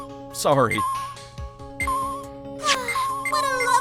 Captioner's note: slow beeping